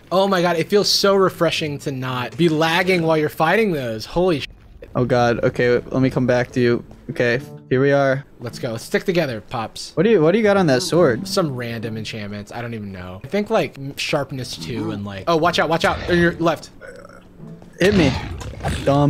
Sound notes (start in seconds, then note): none